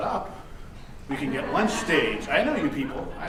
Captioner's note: audience laughing